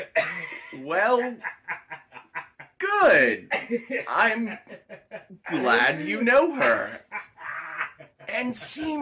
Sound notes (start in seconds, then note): 6.6 Silas laughing maniacally